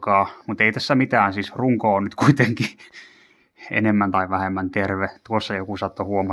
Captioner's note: he-he